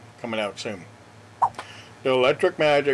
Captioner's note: swipe Sound